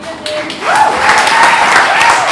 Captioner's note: applause